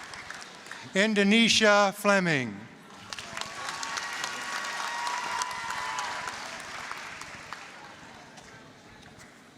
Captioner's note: applause, cheering; applause